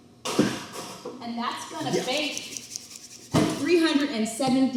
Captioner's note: hands rub